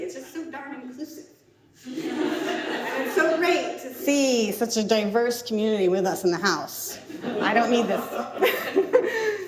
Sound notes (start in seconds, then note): 1.8 audience laughs; 7.1 laughs